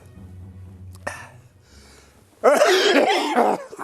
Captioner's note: out of breath